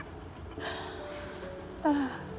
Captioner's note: laughing; sighing